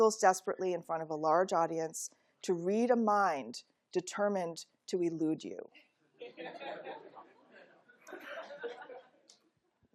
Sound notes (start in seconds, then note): 6.1 laughter